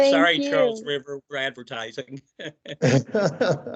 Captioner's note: laughs; laughing